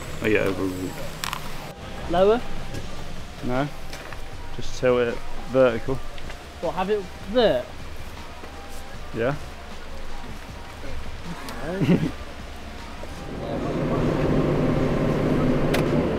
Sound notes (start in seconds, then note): 11.3 nervous laugh